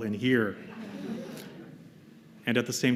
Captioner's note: laughter